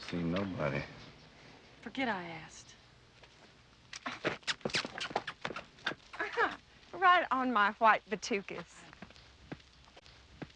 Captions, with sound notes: - I ain't seen nobody. - Forget I asked. (Darlene scoffs) (lips smacking) - (laughs) Right on my white patookus.